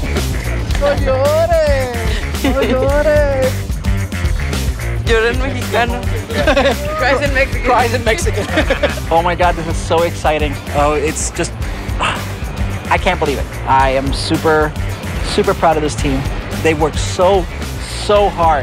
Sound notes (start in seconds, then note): 0.0 bright energetic music; 0.2 speaking Spanish; 5.4 speaking Spanish; 6.0 laughing